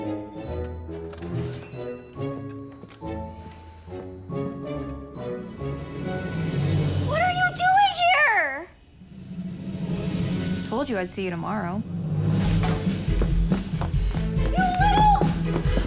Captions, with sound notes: [door opens] What are you doing here? Told you I'd see you tomorrow. You little...